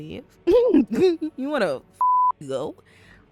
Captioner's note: laughs